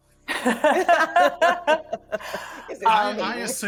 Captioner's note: people laughing